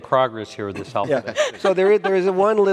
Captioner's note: laughing